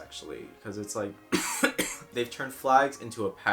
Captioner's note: coughs